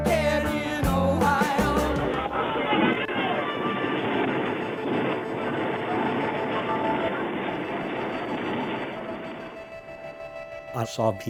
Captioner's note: sounds of rifle fire & screaming